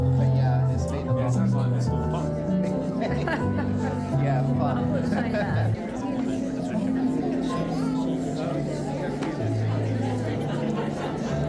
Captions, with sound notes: But yeah, it's been a long time. Yeah, it's been fun. (laughing) Yeah, fun. (laughing) (crowd chattering)